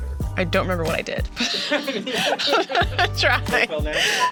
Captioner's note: everyone laughs